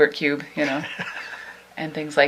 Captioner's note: laughs